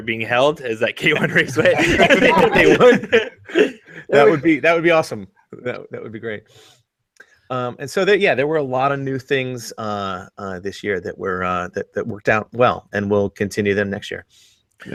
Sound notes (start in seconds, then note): 1.0 everyone laughs